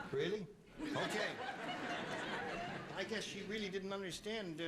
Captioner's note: laughter